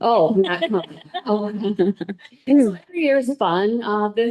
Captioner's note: all laughing